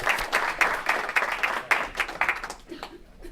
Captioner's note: applause